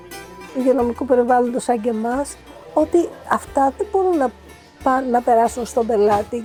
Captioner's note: speaking in foreign language